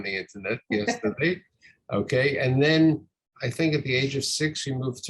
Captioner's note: laughs